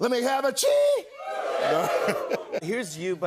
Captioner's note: laughs